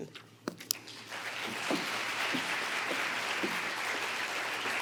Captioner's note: applause